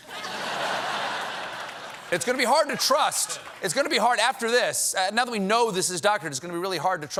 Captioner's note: laughter